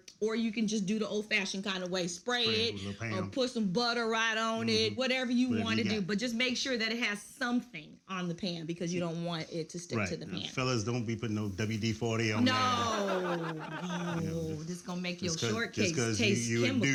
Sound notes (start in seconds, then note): 12.4 audience laughs